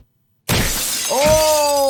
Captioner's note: glass shatters